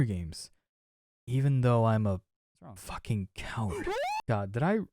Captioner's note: screaming